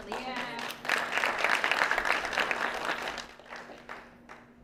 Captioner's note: applause